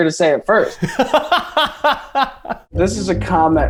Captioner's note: Eugene laughing